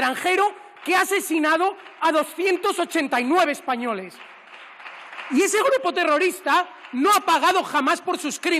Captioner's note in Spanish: Aplausos